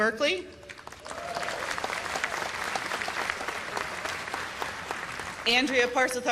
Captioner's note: cheers and applause